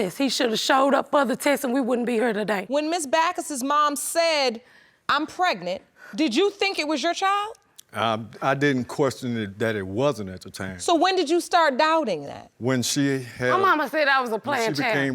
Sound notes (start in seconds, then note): none